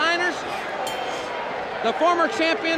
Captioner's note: bell rings